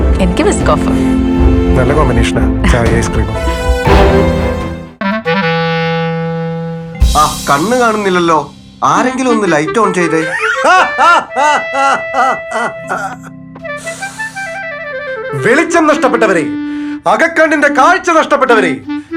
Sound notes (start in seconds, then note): 10.2 laughs; 13.7 inhales